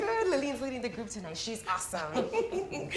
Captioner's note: Lillian laughs